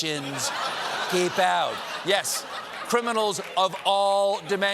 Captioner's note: laughter